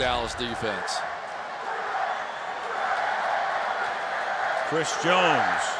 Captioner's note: crowd chanting